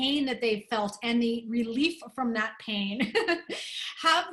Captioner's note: laughter